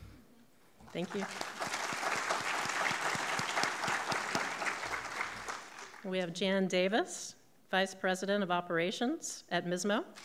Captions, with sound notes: Thank you. (clapping) (audience clapping) We have Jan Davis, vice President of Operations at MISMO.